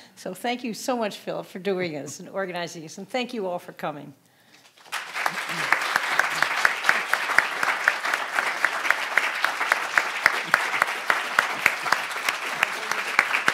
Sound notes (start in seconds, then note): 4.6 audience applauding